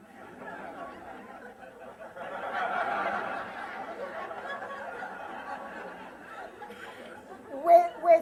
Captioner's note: laughter